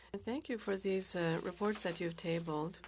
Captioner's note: speaking French